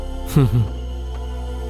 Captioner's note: chuckles